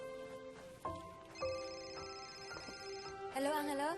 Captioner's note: phone rings